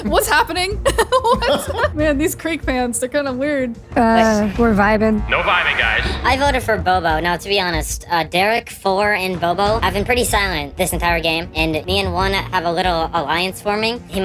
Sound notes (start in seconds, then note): 0.8 laughs